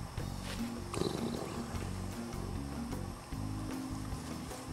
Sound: dog grumbling

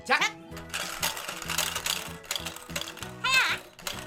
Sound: clatter

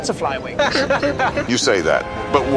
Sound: James laughing

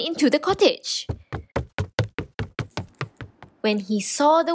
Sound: running

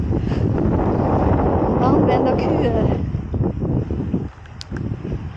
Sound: strong wind

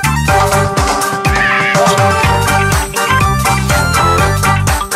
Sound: red squawks

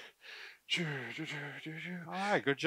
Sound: humming

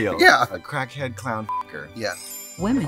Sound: beep

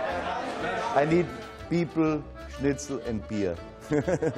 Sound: laughs

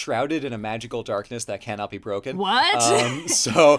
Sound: laughs

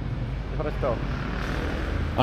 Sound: speaking in foreign language

